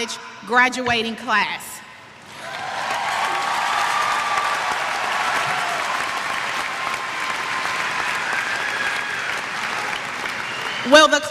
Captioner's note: cheers